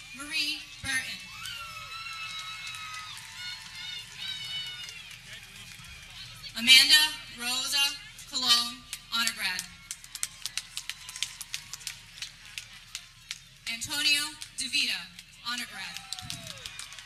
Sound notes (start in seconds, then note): 2.0 people cheering; 10.7 people cheering